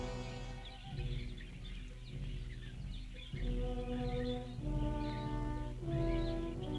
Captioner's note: birds chirping; tense orchestral music